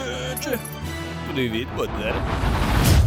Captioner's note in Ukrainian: Говорить по орчому